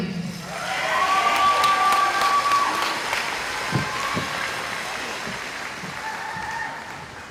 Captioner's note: cheering